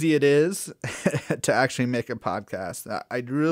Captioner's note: laugh